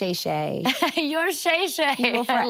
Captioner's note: laughing